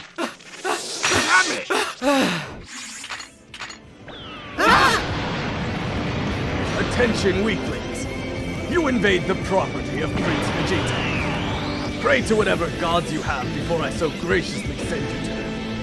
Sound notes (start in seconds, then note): 1.6 TRUNKS sighs in relief